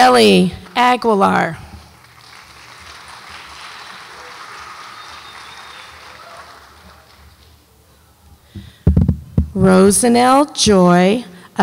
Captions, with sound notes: Aurelie Agolar. (audience applauds) Rosanelle Joy Asuncion.